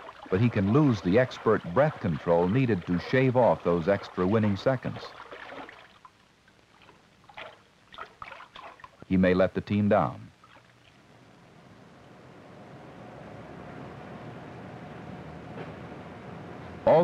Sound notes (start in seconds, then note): 4.9 splashing